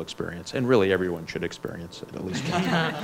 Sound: laughs

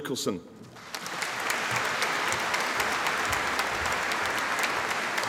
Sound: audience applauding

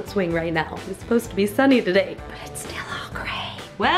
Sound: whispering

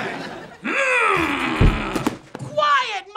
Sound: groaning

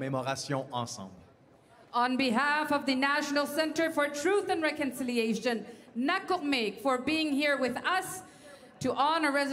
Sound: speaking French

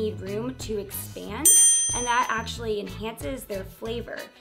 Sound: chiming

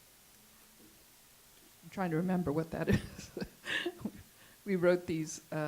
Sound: laughs

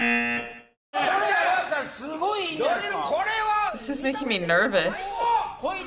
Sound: speaking Japanese

